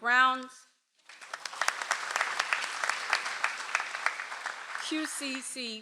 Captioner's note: audience applauds